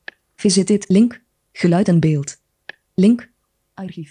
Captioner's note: speaks in foreign language